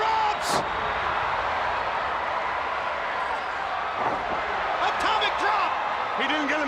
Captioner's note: crowd cheering